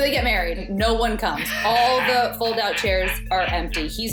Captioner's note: laughing